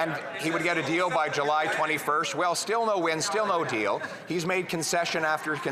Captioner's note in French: voix de l'interprète